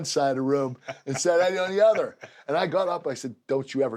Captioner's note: laugh